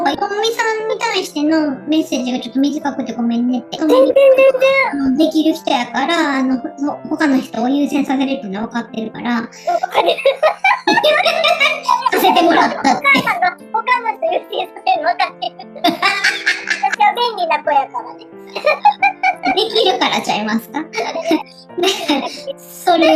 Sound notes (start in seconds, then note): 12.8 laughs